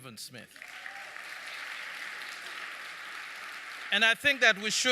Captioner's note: audience clapping